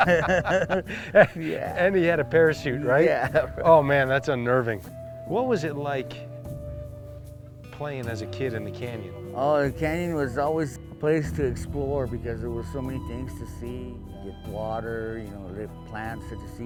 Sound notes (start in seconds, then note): 1.7 laughter